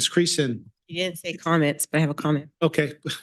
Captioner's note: chuckles